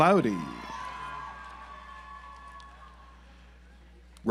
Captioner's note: audience applauds